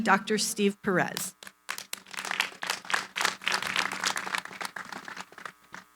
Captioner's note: applause